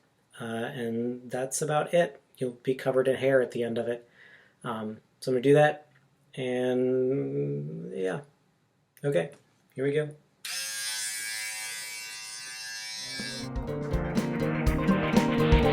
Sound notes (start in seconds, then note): 10.4 razor buzzing; 13.4 chill guitar music